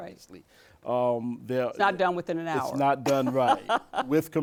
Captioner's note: laughs